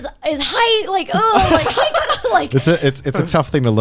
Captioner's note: group laughing